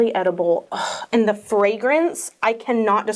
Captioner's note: gasps